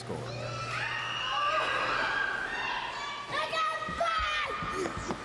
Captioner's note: shouting; kids playing